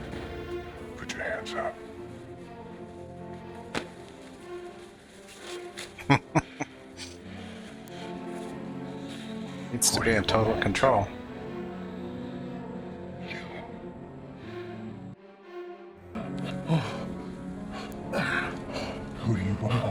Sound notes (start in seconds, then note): 5.9 chuckling